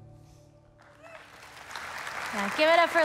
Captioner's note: soft moving guitar music; audience applauding